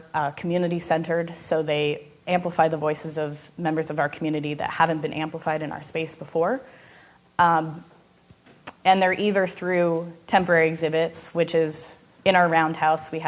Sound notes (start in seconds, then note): none